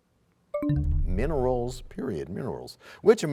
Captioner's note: bell chimes, time expires